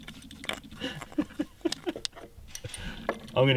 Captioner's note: laughs